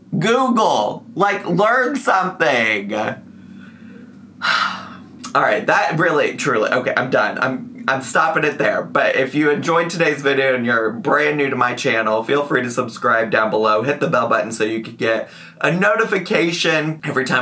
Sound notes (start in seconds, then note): 4.4 sighs